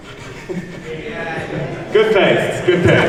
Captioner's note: A few audience yeahs